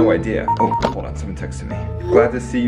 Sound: phone beeping

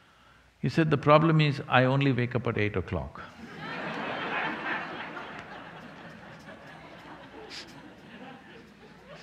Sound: laughter

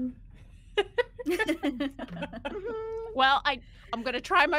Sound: person laughing

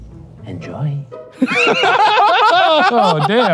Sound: laughing

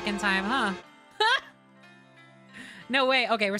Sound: laugh

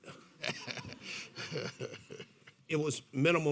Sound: laughing

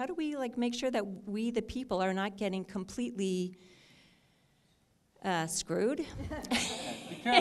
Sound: audience laughter

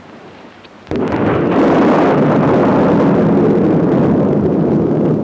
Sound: thunder rumbling

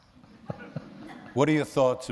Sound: laughter

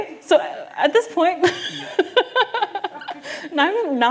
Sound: laughs

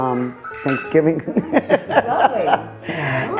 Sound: laughing

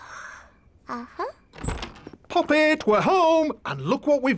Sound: yawns

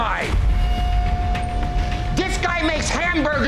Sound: foreboding zing; beeps

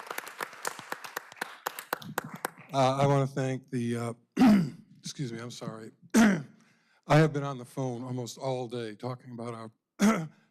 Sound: applause

